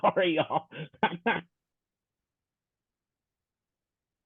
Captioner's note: laughing